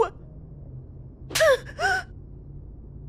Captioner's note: slap